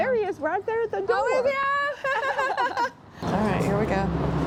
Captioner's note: laughing